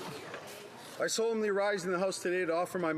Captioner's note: some Applause